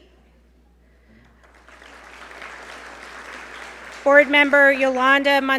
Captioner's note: audience applaud